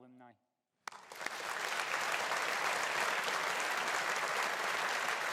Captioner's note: audience applauding